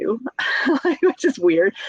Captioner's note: chuckles